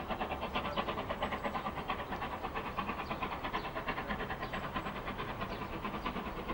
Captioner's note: train passes